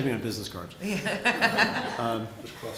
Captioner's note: chuckling